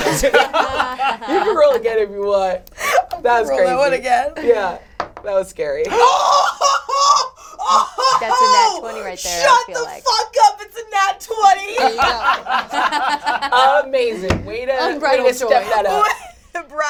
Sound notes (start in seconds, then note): 0.0 all laugh; 7.6 yells excitedly; 11.7 all laugh